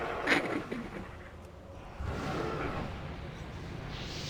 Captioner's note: laughs